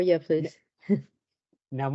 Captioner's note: chuckles